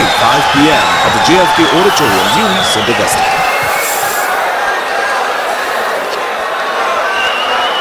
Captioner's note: wild applause and cheering for 22 seconds